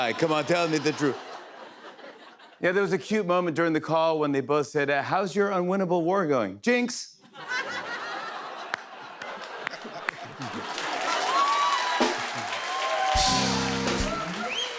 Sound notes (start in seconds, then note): 7.2 laughter; 9.1 cheers and applause